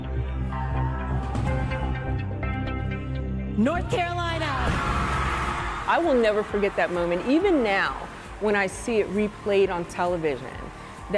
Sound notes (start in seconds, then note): 0.1 suspenseful music; 4.6 crowd cheering